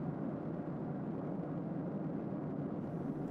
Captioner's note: none